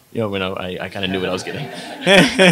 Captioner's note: laughs; audience laughs